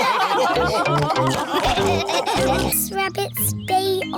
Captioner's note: laughter